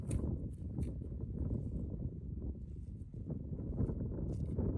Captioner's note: wind on the ridge